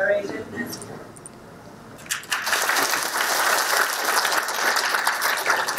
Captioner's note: audience applauding